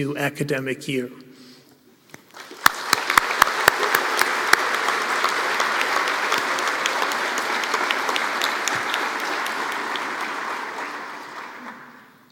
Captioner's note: applause